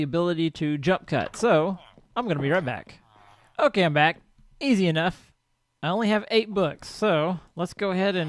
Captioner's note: chattering continues